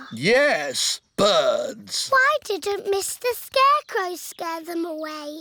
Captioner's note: none